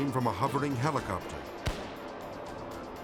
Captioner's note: tranquilizer gun fires; light intense orchestral music